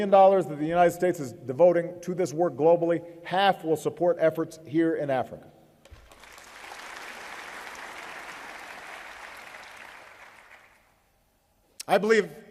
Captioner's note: applause